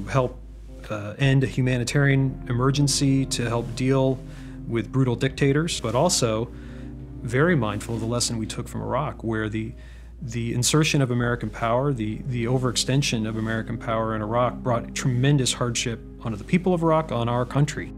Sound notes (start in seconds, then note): none